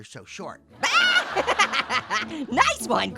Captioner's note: Orange laughs loudly